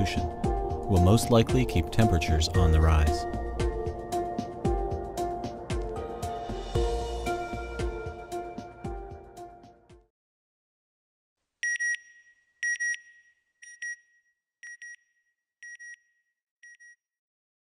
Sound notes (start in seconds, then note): 12.6 beeping